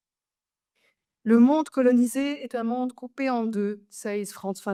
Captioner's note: speaks French